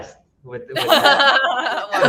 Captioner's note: laughing